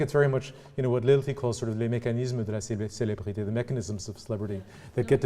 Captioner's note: french